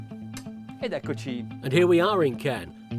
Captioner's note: speaking foreign language